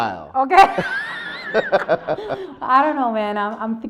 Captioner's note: laughs